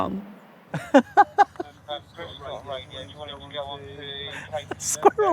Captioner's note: laughing